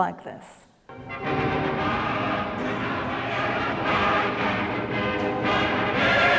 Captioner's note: foreign language